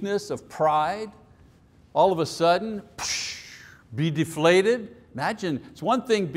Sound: blows sharply

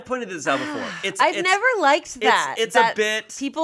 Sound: sighing

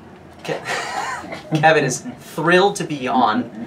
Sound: laughs

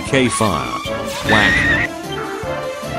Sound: whack

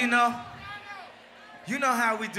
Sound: crowd cheers

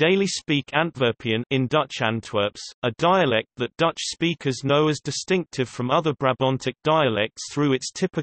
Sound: in Dutch Antwerps

